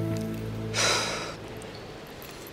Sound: Anna Exhales deep

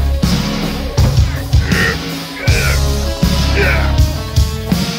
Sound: grunting noises

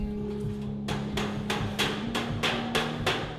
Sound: hammering

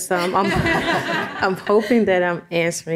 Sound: audience chuckles

